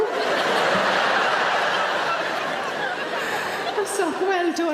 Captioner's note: audience laughs